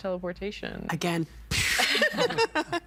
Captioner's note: making explosion sound